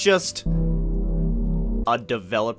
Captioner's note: eerie noise